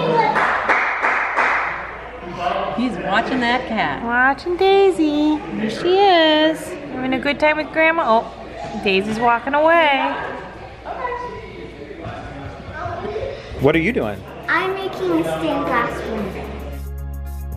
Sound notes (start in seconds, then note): 0.0 cheers; 17.3 bright acoustic music